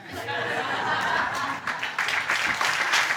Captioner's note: audience laughs